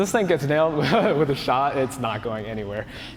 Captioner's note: laughter